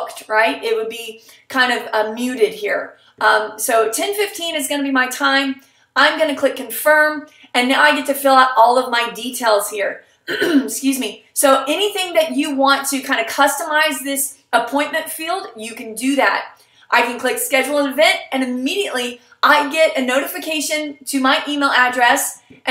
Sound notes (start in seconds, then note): 10.2 clear throat